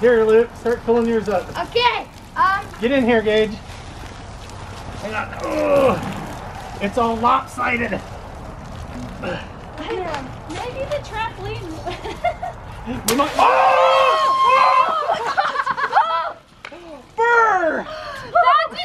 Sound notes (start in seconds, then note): 11.8 laughs; 13.3 screaming; 14.6 laughing